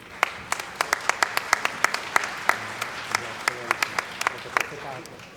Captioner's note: applause